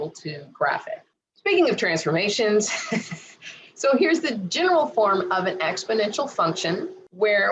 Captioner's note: giggles